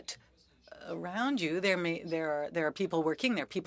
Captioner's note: speaking French